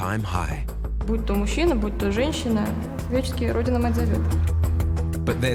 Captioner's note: speaks in foreign language